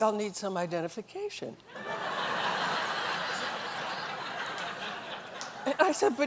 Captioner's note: laughter